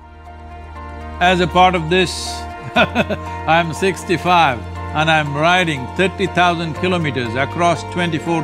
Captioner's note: laughs